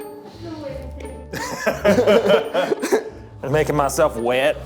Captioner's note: everyone laughing